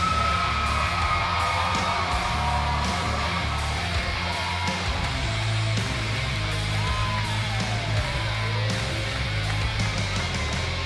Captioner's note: cheers and applause